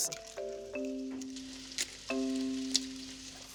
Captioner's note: sizzling